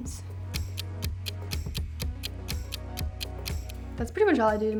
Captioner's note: clock ticks